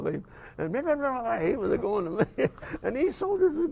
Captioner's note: laugh